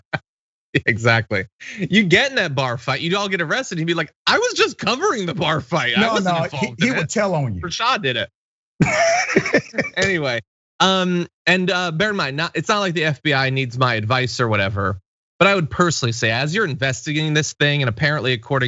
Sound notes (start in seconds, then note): 8.8 laugh